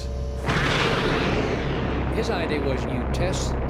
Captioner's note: thrusters roaring